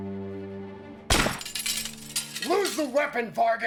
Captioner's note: gunshot firing; glass shattering